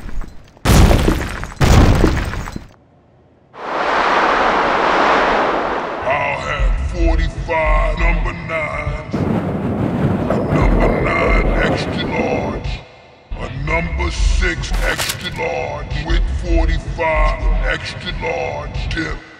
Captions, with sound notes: * 2x earrape footsteps * *whOOOOm* -I'll have 45 number 9s.. ... a number 9 EXTRA LaRGE... ... a numba 6 extra large with 45 extra large dip...